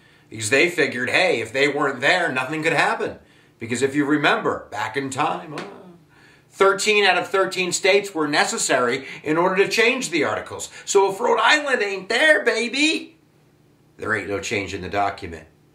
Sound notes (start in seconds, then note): 5.5 argh!